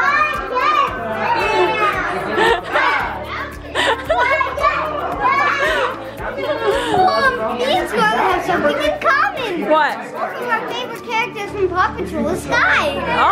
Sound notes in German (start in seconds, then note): 3.6 Gelächter